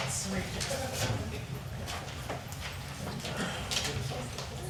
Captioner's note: people chatting